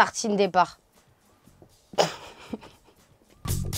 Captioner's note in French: Rire